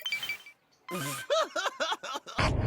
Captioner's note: laughter